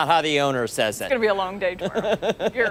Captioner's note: laughter